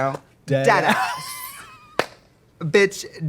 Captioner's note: Katya laughing